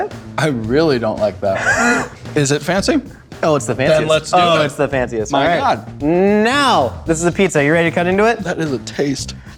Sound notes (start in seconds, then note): 1.5 laughs